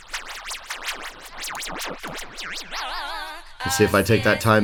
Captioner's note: audio track simulates garbled reel-to-reel